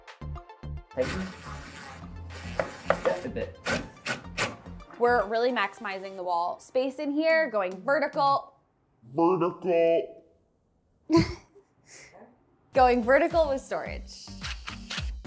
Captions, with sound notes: (drill whirs) - Just a bit. - We're really maximizing the wall space in here, going vertical. Vertical. Going vertical with storage.